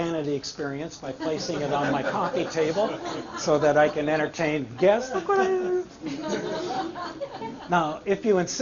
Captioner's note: laughter